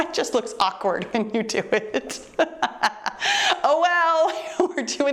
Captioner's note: chuckles